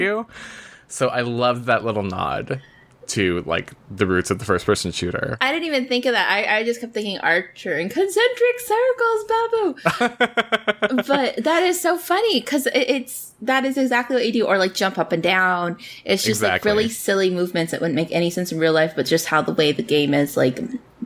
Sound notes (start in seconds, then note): 9.8 laughs